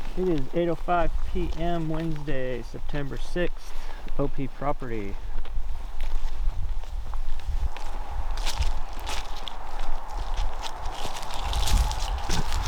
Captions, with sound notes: It's 8:05 PM, Wednesday, September 6th, OP property. (footsteps rustling)